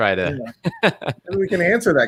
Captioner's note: laughs